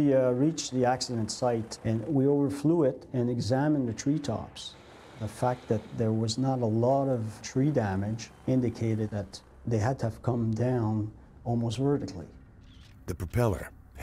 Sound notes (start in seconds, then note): 4.6 voiceover